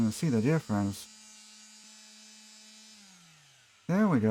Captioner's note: sander sounds